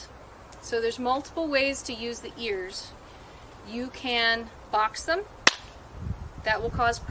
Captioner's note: claps hands together